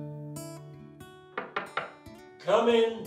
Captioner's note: knock at the door